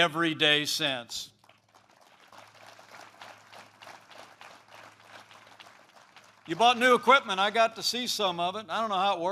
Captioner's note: applause